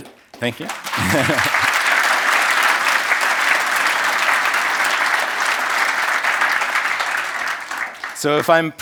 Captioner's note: applause